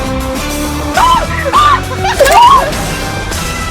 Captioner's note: more unintelligible bri'ish panik